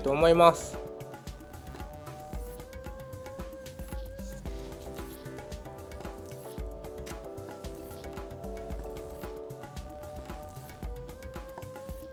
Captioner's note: the sound of cutting